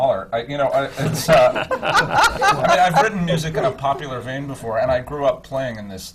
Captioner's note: laughter from the panel